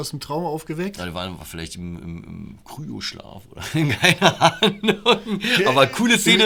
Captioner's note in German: Lachen